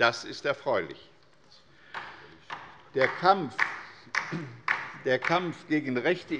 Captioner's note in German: Beifall bei der LINKEN